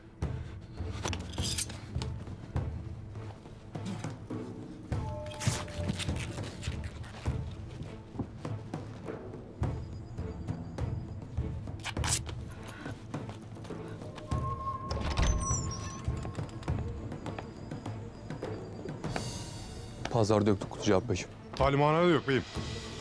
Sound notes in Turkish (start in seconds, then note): 0.1 Müzik - Gerilim; 11.8 Kumaş yırtılma sesi; 14.1 Kapı açılma sesi